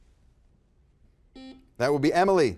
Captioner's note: buzzer buzzes